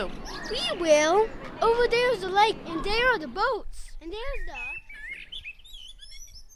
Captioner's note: transition - Noisy hall with sounds of glasses, silverware, kids, etc